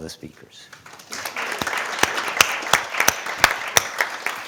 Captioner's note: applause